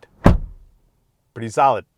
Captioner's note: door thunks